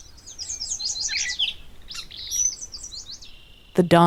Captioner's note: birds singing